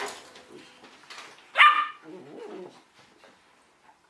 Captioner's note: puppy yaps